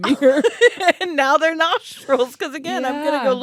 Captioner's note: laughs